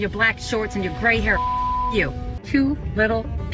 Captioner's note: beep